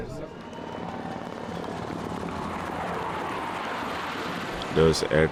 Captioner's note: crowd cheering; helicopters whirring